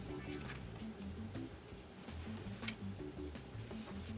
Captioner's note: paper rustle